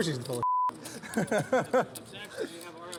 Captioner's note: laughing